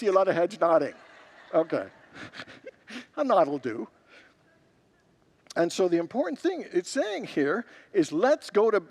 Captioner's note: congregants laugh